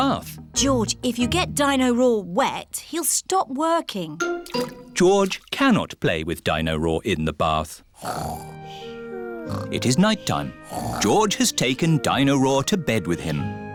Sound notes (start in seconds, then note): 9.2 snoring